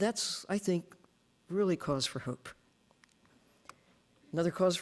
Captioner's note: none